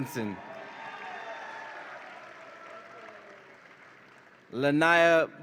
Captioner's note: audience applauds and cheers